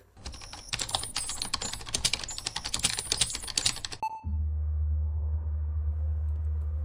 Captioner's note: keyboard clacking